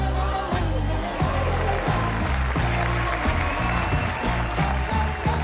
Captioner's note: audience cheering